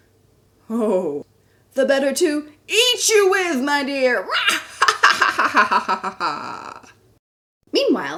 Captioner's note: evil Laughter